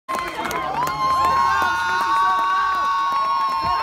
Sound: cheering

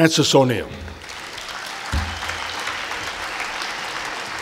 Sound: applause

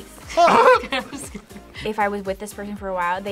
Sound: laughs

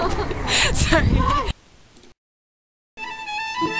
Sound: laughing; peaceful melody

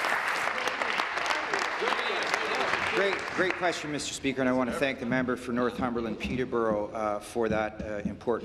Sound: applause

